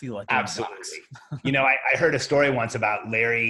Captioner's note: laughs